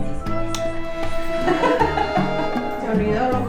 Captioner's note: laughter